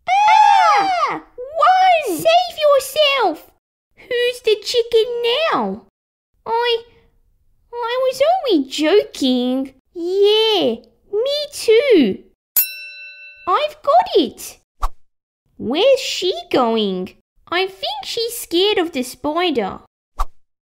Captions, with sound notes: Arrrgh! Run! Save yourself! Who's the chicken now? I... I was only joking Yeah, me too (Ding!) I've got it! Where's she going? I think she's scared of the spider